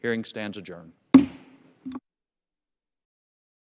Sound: thunk

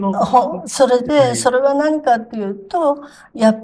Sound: laughs

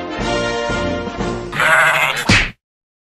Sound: goat Cry

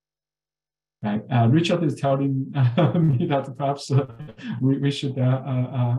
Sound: laughs

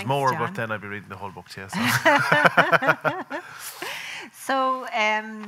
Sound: laughing

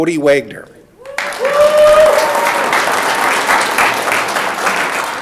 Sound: audience clapping

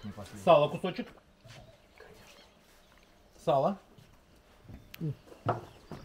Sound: people speaking foreign language

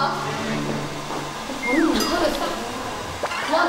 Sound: cracking

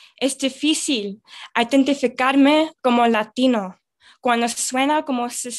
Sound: speaks in foreign language

